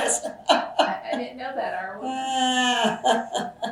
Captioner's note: laughs